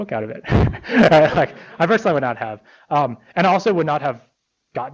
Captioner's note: laughter